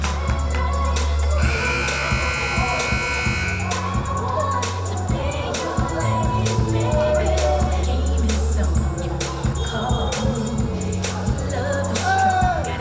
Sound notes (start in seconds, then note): 1.4 buzzer buzzing; 9.8 whistle blowing